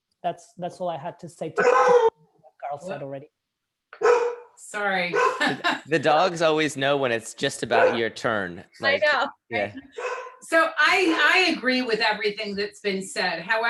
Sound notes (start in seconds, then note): 4.0 dog barks; 5.2 laughs